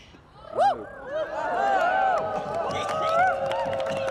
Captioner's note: cheering and applauding